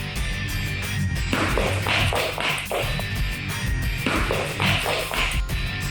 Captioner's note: footsteps